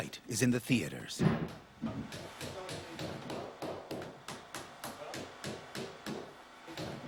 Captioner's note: soft hammering